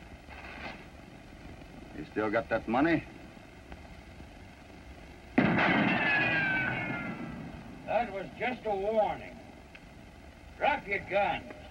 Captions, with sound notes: You still got that money? [gunshot] That was just a warning. Drop your guns!